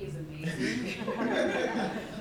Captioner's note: laughter